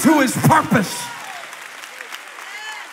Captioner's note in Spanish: Aplausos